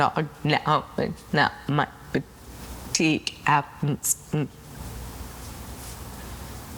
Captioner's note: Selma's speech slows down